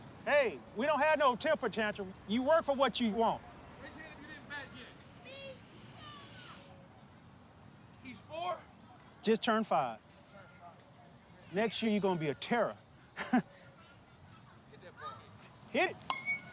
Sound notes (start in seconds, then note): 13.1 chuckling; 16.0 ball pinging on bat